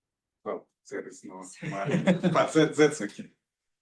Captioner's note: laughs